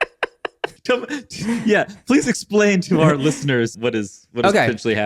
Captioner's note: laughs